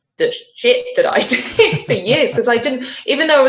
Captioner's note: laughs